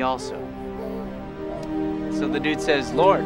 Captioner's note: baby cooing